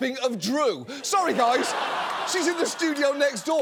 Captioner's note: audience laughs